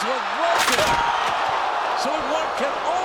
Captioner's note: bodies thud; ladder clatters